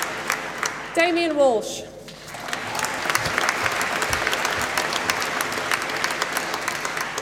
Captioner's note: applause